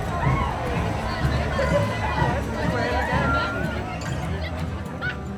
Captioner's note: cheering